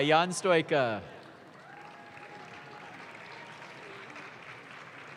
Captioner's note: audience claps